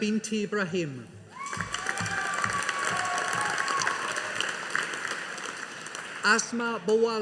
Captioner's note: audience applauding